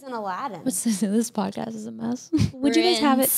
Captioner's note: laughs